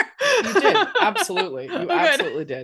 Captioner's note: laughing